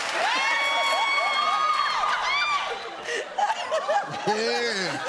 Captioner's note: laughs